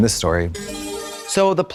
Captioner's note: bright chime